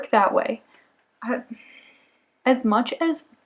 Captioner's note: big exhale